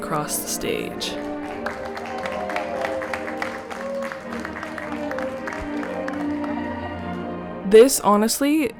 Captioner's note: applause